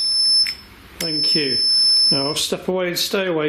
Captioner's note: REM pod beeping